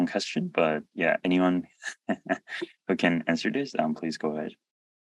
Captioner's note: chuckles